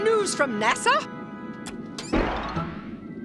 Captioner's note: button clicks